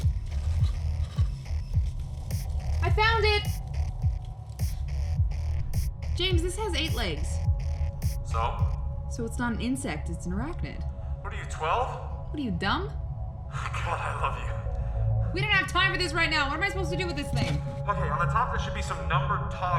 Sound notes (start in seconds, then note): 13.5 laughing